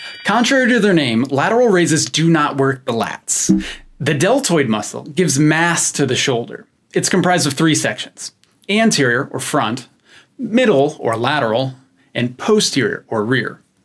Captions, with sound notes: Contrary to their name, lateral raises do not work the lats. *error sound* The deltoid muscle gives mass to the shoulder. It's comprised of three sections: anterior or front, middle or lateral, and posterior or rear.